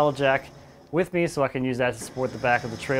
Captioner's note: engine whirring